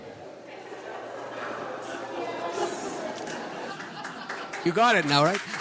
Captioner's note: audience laughing and chattering; audience applauds